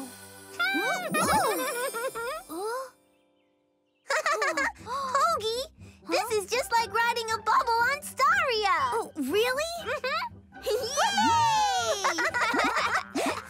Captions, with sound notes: -[Pinkfong chuckles excitedly] -Oh! [laughs] Hogi, this is just like riding a bubble on Staria. -Really? -Mm-hmm. -Yay! -Whoo-hoo! [both laughing]